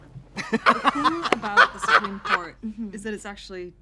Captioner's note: both laugh